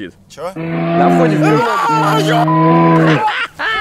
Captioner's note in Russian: рёв медведя